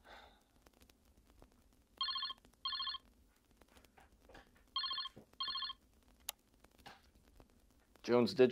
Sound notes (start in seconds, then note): 2.4 phone ringing